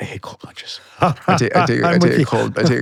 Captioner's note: laughing